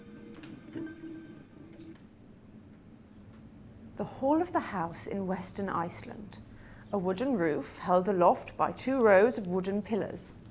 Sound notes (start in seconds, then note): none